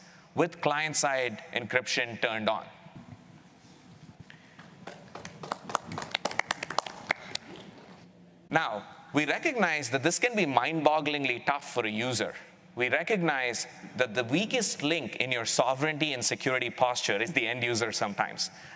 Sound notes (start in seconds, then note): 4.8 applause